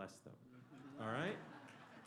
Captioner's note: laughter; applause